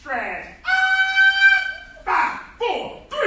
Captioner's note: enthusiastic shouting